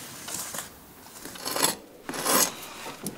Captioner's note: scratching